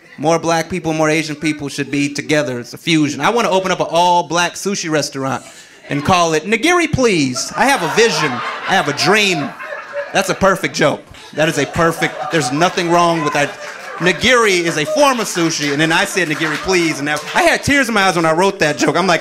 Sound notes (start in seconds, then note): 6.8 audience laughing; 10.7 audience laughing